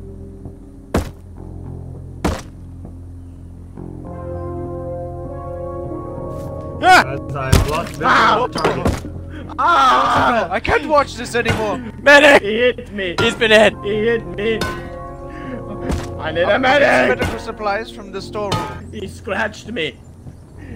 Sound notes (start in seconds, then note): 7.5 rock slams; 9.2 Agonized groans of Buck